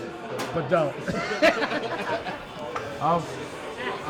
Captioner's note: laughs